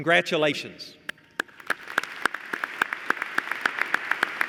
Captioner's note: applause